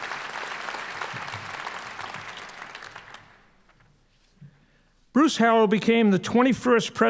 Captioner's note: applause